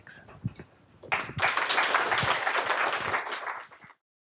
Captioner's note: applause